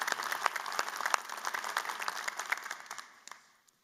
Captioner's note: applause